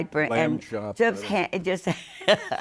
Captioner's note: laughter